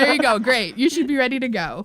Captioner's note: laughter